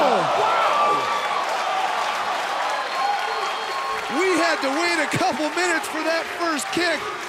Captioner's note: applause